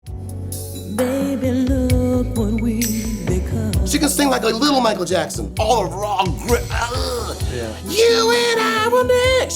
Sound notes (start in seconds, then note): 5.4 groans